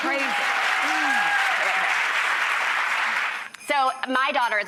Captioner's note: audience claps